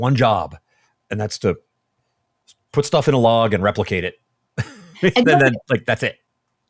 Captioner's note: laughs